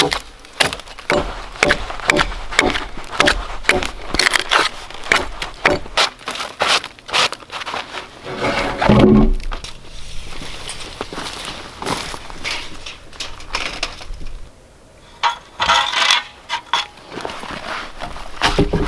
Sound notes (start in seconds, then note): 6.7 log thudding; 15.0 level scraping